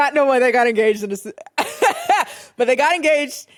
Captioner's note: laughs